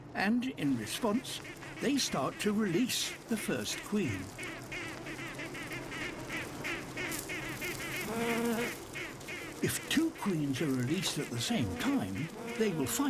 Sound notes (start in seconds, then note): 4.9 quacking